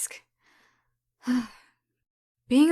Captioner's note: sighs